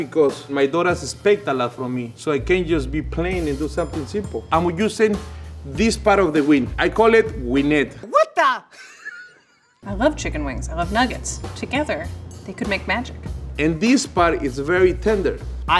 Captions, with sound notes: because my daughter has picked a lot from me, so I can't just be plain and do something simple. And we're using this part of the wing. I call it wingettes. - What the? [laughs] - I love chicken wings, I love nuggets. Together, they could make magic. - And this part is very tender.